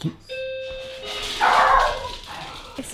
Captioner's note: ding-dong; barking